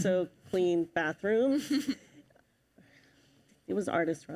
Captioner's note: chuckles